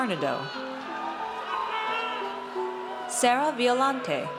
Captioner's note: audience cheers